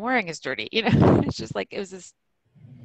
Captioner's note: laughs